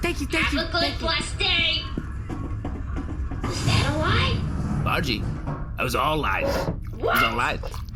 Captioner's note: the hatch shuts